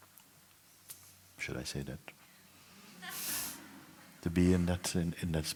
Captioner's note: laughter